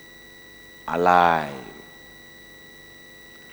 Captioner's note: hindi